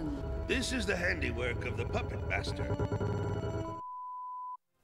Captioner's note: strange signal noises